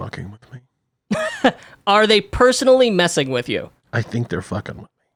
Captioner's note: laughs